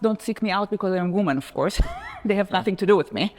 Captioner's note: chuckles